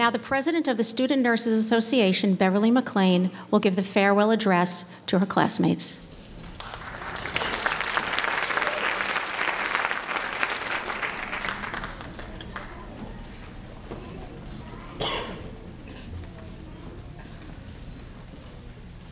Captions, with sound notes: Now the President of the Student Nurse's Association, Beverley McClain, will give the farewell address to her classmates. (applause)